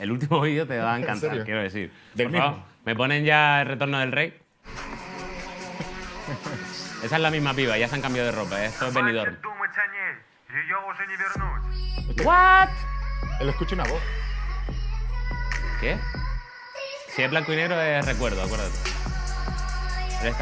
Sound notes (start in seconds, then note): 10.0 speaks russian